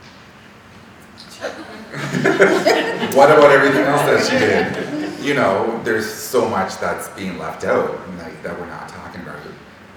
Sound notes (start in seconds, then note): 1.3 all laughing